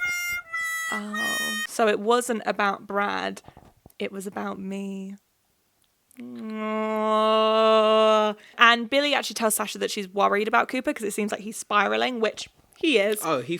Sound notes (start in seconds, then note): 6.4 groaning